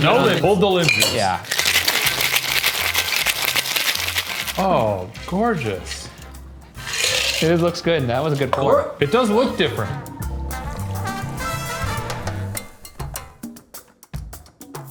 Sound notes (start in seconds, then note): 2.0 drink shaking; 10.4 upbeat Latin music